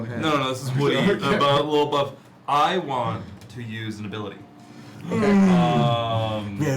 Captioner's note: laughs